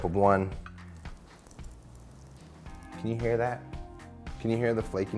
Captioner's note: tortilla crunching